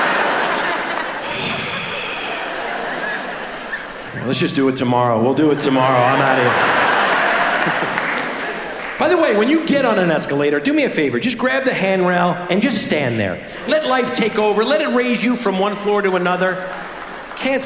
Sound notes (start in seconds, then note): 1.1 long sigh; 7.0 audience laughs